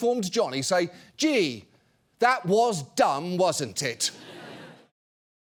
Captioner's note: mimicking johnny